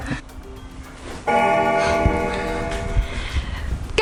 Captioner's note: bell ringing